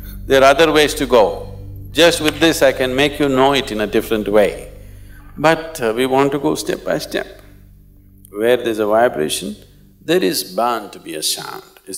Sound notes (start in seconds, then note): 2.2 claps